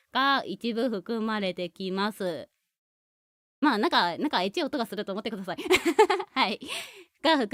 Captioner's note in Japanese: 笑い